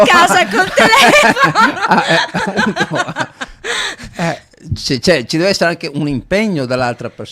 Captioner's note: laughs